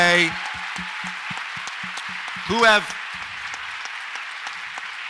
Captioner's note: audience applauds